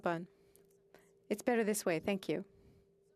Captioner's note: speaking French